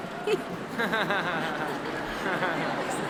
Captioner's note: laughing